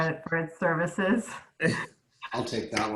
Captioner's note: laughing